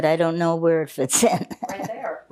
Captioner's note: laughing